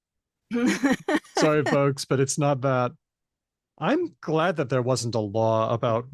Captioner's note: laughter